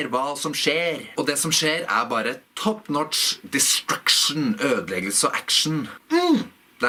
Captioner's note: in norwegian